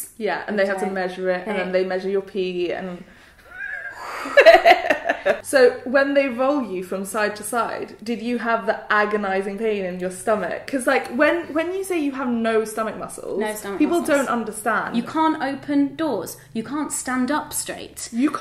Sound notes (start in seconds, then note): 3.4 sighs; 3.4 laughs